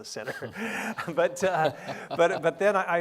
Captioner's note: laughing